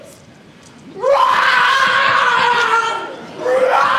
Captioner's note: Max roars